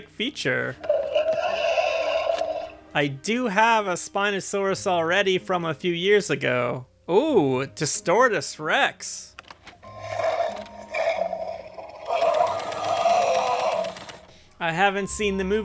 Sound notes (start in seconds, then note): 0.0 roar; 10.8 roar